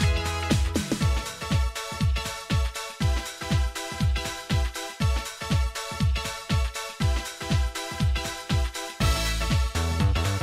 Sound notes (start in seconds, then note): none